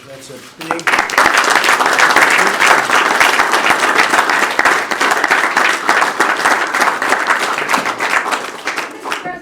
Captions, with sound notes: Okay. That's a big - that's a big thing. (Applause.)